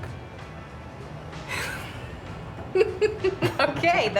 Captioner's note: laughs